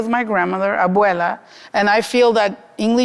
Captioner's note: speaking Spanish